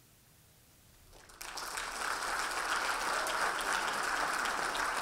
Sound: audience applauding

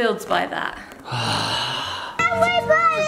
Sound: sighing

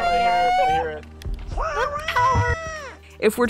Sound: yelling; going AAAAAW

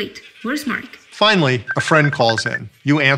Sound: ringing

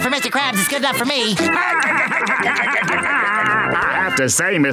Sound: laughing

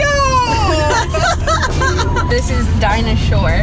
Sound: laughing

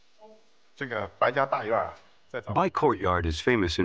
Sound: speaking Chinese

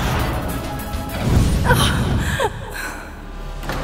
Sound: gasps

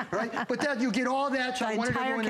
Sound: laughter

